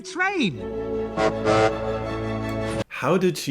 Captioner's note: bright music; train honks